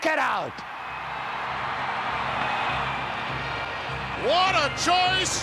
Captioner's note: crowd cheering